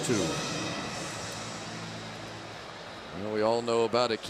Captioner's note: pa announcement